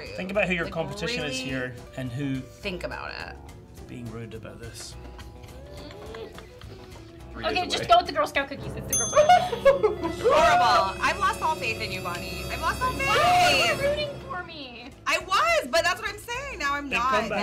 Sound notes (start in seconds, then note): 8.9 bell dings; 10.6 dramatic music